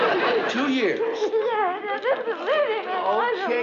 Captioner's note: sobbing; sobbing incoherently